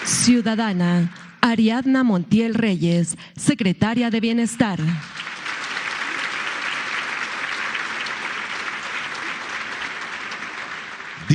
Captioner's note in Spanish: aplausos